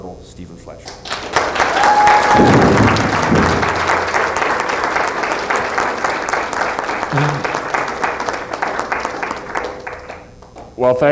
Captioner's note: applause